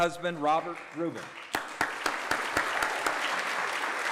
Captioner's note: applause